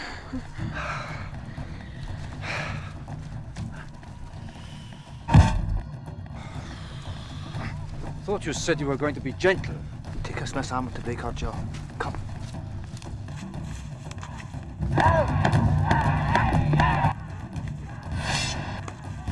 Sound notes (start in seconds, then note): 5.2 punch thuds; 14.8 grunting and yelling; 14.9 drums beating